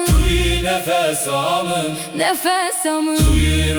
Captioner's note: my breath